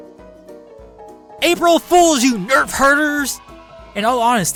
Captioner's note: children cheer